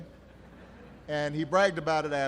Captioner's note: laughter